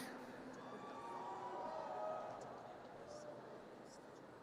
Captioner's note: audience cheers